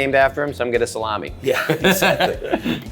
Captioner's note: chuckles; laughs